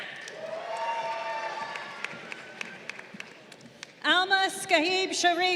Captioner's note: crowd cheering